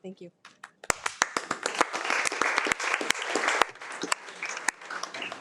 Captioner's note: participants applauding